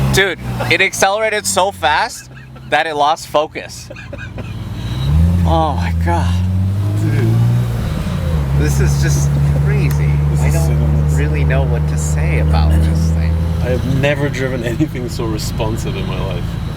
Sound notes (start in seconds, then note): 3.7 laughing